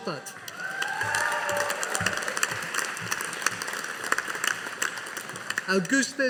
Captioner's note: audience applauding